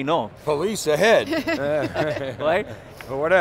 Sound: laughing

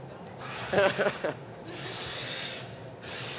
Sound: laugher

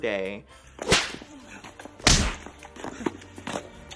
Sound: fist thuds

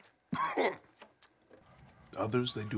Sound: groans; coughs

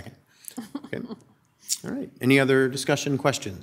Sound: people chuckle

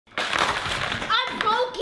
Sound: egg crashing

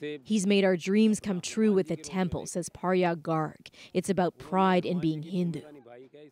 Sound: speaking alternate language

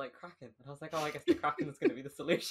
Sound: laughing

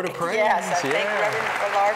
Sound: applause

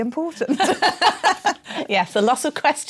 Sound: laughter

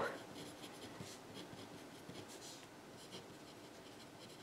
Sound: pen scribbles

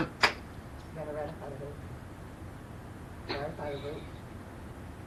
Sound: faintly speaking

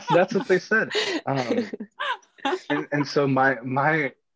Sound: laughing

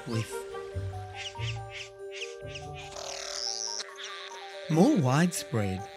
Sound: bird squawking

